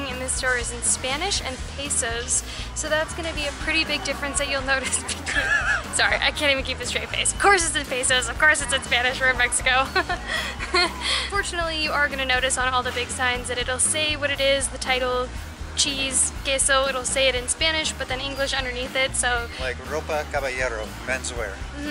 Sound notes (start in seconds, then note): 4.7 laughter